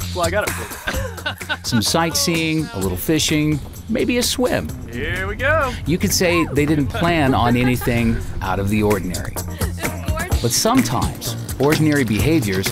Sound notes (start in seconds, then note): 0.5 all laughing